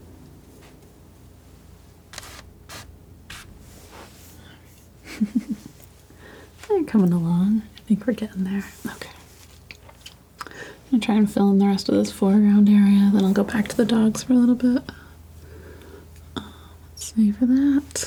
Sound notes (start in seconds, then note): 0.1 scratching; 5.0 laughing